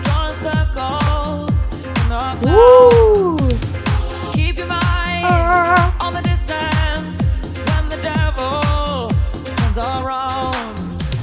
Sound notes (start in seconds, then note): 2.4 cheering; 5.2 humming